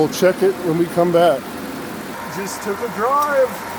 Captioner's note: engine idling